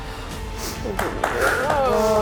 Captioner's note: clapping